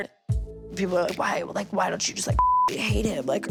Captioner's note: beep